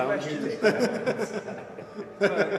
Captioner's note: laughter